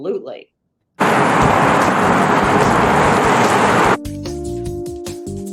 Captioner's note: waves crash softly; soft upbeat music